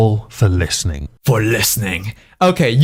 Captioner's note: deep voice